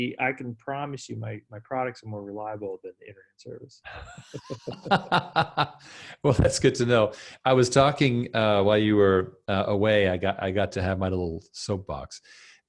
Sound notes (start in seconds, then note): 3.8 laughing